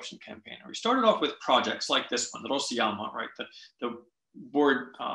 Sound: russian

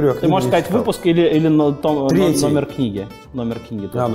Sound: voice-over

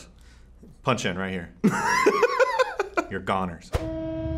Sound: laughs

